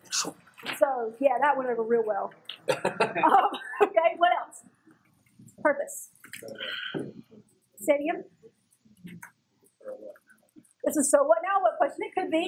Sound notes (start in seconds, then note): 2.5 laugh